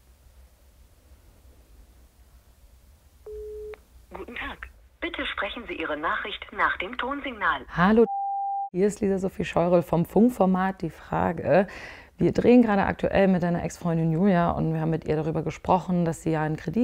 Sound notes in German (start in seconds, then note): 8.0 Piepton